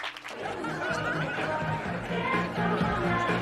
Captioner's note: Obrolan ORANG, MUSIK BERMAIN